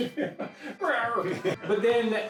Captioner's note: laughing